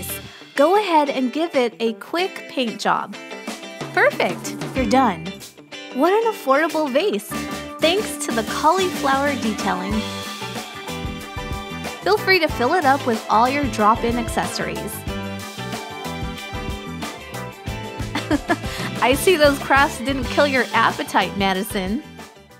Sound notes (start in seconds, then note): 18.1 chuckle